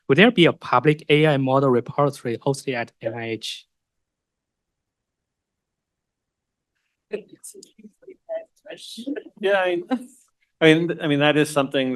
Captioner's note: pause